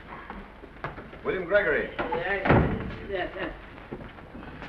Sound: door closes

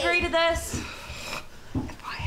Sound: sighs

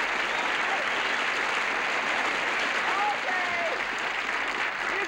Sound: applause

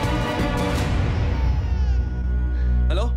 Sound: baby crying

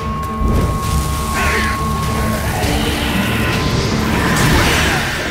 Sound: flames crackle; screech; shriek

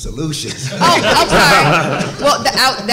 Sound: all laughing

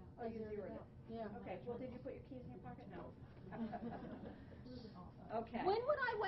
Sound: laughing

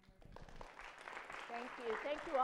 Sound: applause

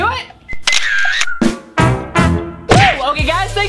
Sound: camera shutter fires

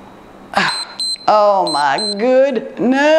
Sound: timer beeps

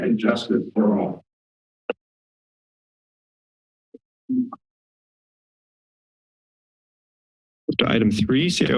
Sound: silence

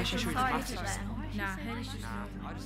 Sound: hum of voices

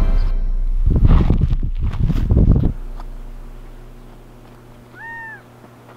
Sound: wind blowing and bird calling

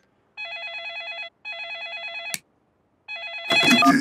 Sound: phone ringing

